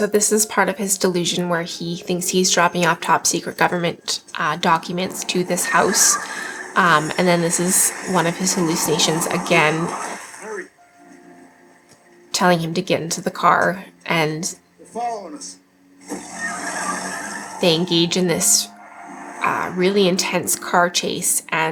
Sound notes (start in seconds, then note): 6.3 tires screeching; 16.0 tires screeching